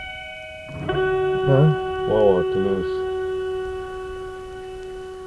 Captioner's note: non-english speech